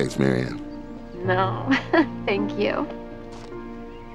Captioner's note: chuckling